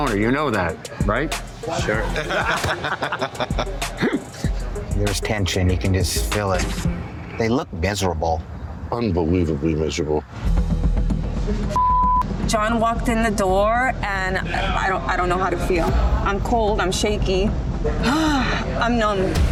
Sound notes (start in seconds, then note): 1.6 patrons laugh; 10.4 suspenseful music; 11.7 beep; 18.0 sighs